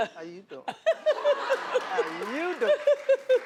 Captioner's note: audience laughing